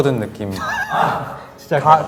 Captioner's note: hahaha